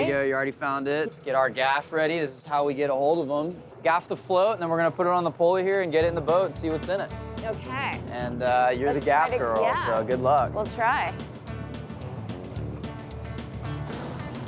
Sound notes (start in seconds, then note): none